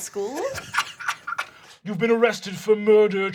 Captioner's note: laughing